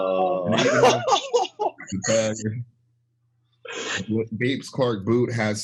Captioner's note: laughs